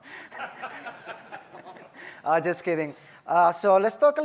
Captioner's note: laughter